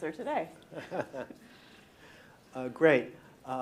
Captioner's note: laughing